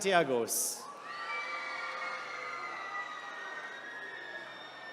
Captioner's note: attendees cheering